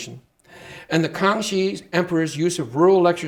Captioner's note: speaking Chinese